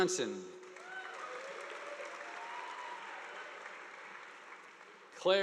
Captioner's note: audience applauding